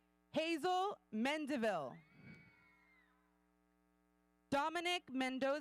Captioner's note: audience cheering